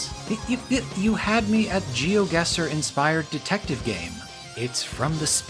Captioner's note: assorted mouth noises